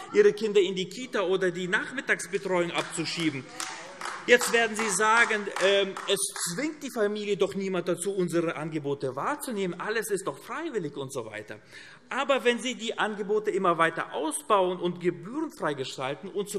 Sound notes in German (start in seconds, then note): 2.6 Beifall AfD - Zurufe: Ei, ei, ei!